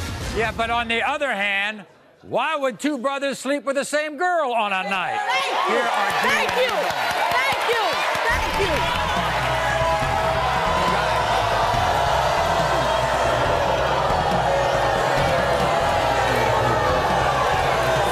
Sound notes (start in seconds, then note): 6.6 audience cheers; 9.8 crowd jeers